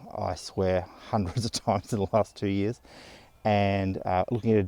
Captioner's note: laughs